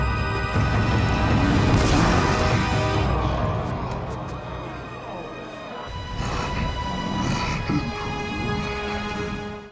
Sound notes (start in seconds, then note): 2.3 audience gasping